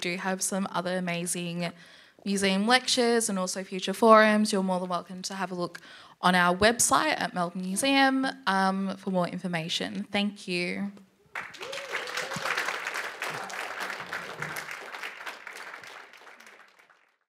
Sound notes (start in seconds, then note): 11.3 applause